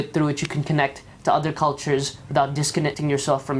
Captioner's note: none